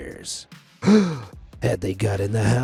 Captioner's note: narrator gasping